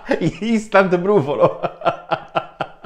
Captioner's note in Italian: Risate